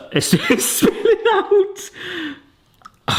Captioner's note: laughing